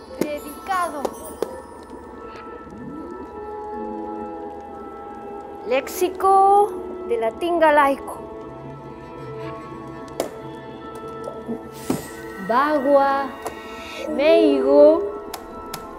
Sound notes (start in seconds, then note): 12.4 bells tinkling; 14.1 distorted voice